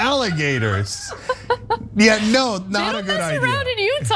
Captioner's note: laugh